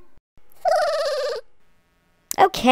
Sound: giggles

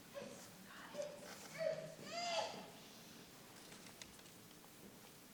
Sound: infant fretting

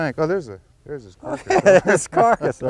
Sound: laughter

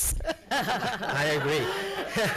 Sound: congregation laughs

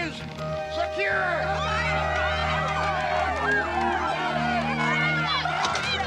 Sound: cheering

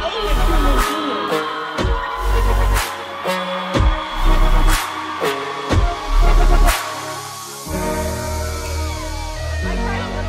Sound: cheering

